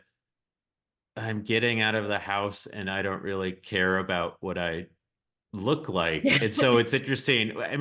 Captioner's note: giggles